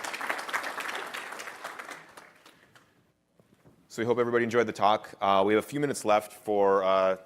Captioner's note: applause